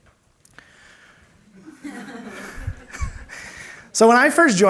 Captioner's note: laughter